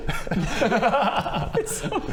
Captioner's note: resigned giggles